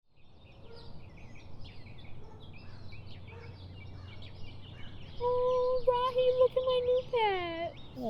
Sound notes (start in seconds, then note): 0.1 birds chirping